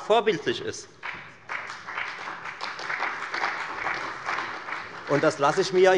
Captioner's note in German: Beifall bei der FDP und bei Abgeordneten der CDU